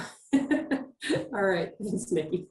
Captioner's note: chuckles